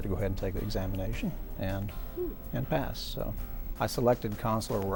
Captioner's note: pleased sound